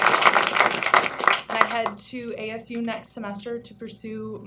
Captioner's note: applause